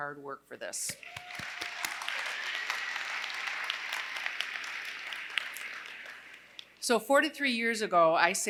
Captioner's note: applause